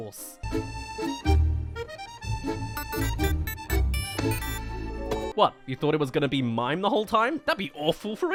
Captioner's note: mimes* *Looks* *Phone rings